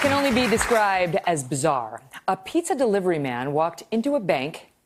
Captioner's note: applause